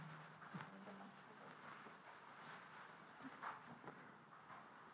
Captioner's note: people murmuring